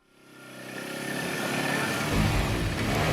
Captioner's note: motor revving